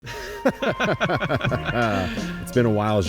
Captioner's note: both laughing